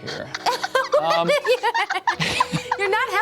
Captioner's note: laughs